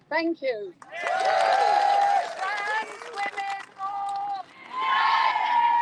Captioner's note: crowd cheers